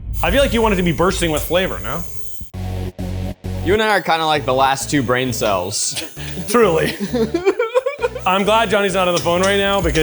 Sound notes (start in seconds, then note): 2.9 upbeat electronic music; 5.9 laughs